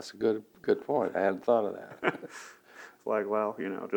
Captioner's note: laughs